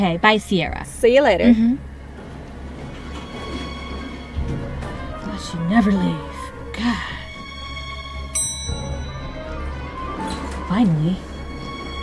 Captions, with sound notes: - Okay, bye Ciara. - See you later. (tense music) - I thought she'd never leave, God. (elevator dings) Finally.